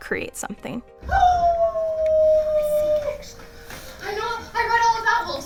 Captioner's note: howling